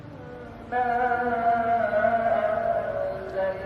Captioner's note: praying sounds in the distance